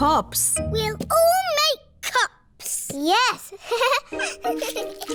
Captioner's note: giggles; all giggling